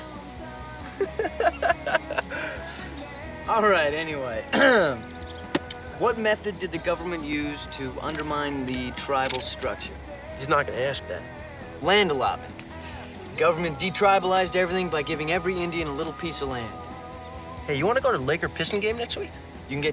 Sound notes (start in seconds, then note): 0.8 Steve laughs; 0.8 scoffs, laughs; 4.5 clears throat